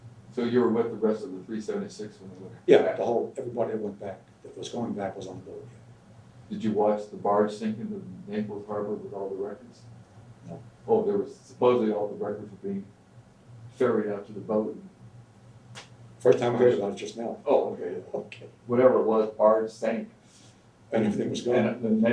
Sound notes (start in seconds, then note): 17.4 laughs